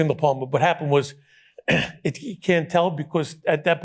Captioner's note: clears throat